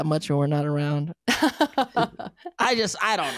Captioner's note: laughing